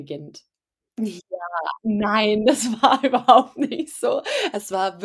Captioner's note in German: lacht